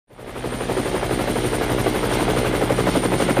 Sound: helicopter

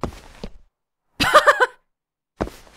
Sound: laughs

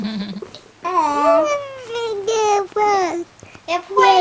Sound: cooing

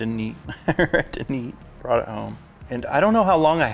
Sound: chuckles

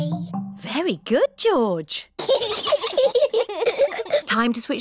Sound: both giggle

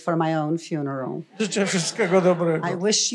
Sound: foreign language

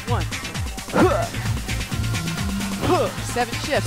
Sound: grunting

